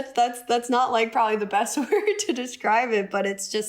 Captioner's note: laughter